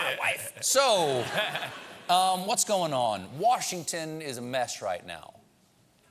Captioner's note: laughter